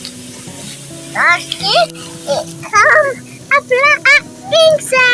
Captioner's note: baby sounds